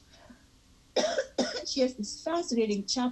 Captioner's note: coughing